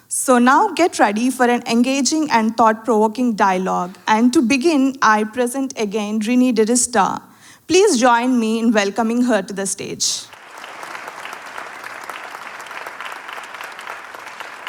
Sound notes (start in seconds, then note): 10.3 audience applauding